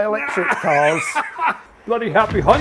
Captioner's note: laughing